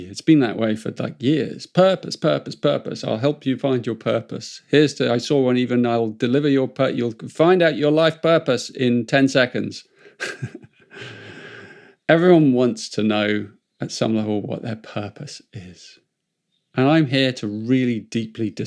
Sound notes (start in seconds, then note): 10.1 chuckles